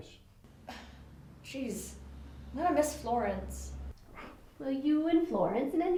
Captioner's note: scoffs